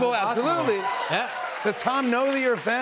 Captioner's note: cheers and applause